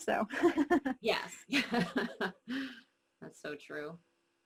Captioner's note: laughing